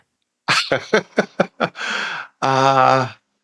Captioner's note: laughs